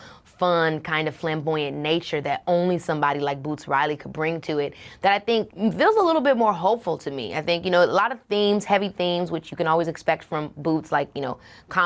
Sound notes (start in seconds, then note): none